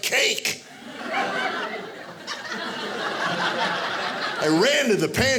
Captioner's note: audience laughing